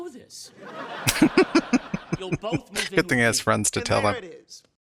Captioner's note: laughing